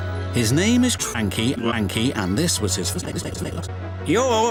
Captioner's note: glitching